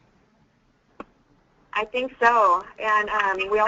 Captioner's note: voiceover